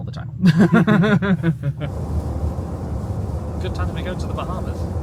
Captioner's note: chuckles